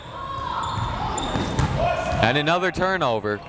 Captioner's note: crowd members shouting